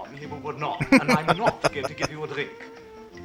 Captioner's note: laughing